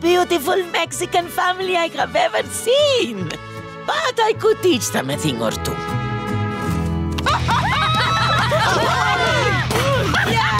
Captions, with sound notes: Mexican family I have ever seen. But I could teach them a thing or two. [laughing]